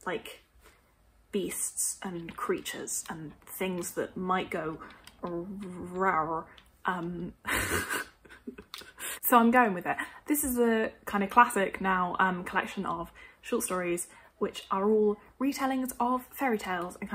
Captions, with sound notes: beasts and creatures and things that might go rawr. [Laughs] So I'm going with it. This is a kind of classic now, collection of short stories which are all retellings of fairytales and kind of